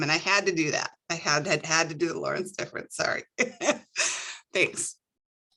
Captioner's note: laughs